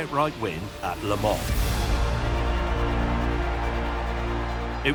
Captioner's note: cheering